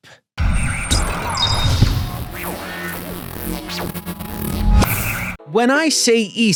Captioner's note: static hissing and buzzing